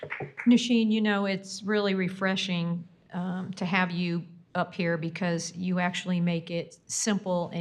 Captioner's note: applause